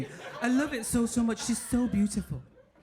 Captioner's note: audience laughing